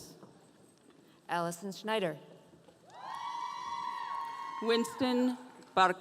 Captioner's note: audience cheering